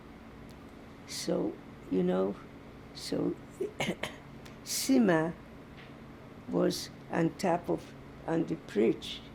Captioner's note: coughing